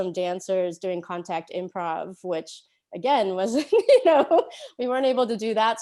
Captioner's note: laughs